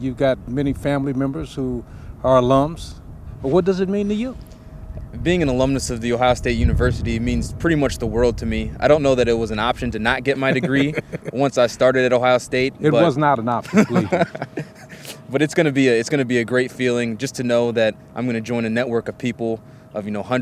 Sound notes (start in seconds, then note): 13.6 laughs